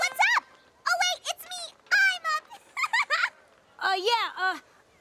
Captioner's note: laughs